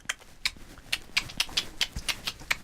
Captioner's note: odd series of clicks